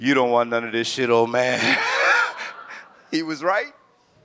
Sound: laughs

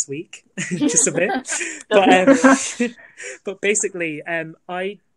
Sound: laughter

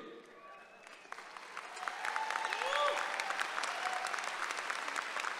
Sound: applause and cheering

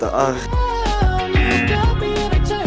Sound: buzzer rings

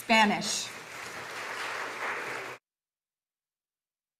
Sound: audience applauding

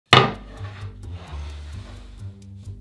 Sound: cutting board sliding

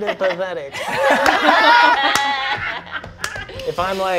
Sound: all laughing

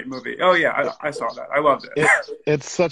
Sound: laughs

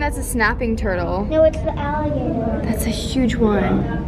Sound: child's Voice

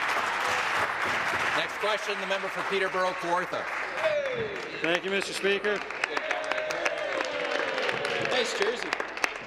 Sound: some Applause

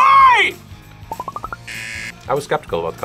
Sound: buzzer

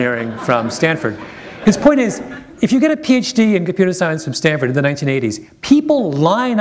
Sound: chuckle

